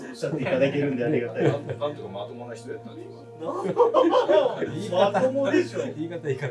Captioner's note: laughs